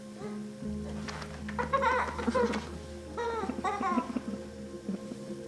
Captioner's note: Jack and Alex laughing